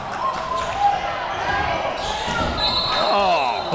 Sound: crowd cheering; whistle blow

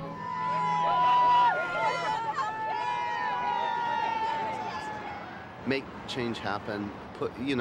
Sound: people cheering

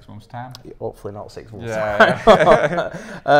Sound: laughs

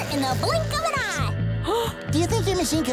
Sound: gasping

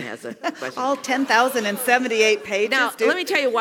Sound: laugh

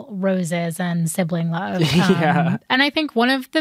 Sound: chuckling

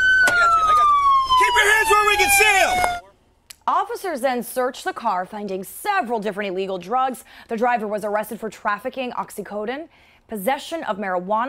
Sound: sirens

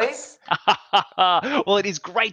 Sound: laughs

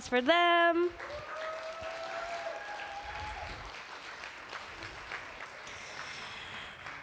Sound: applause

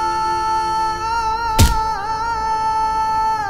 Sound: thud

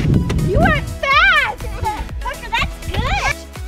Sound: giggles

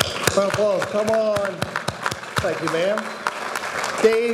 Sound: audience applauding

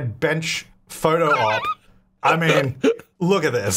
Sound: laughing

